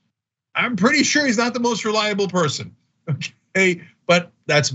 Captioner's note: laugh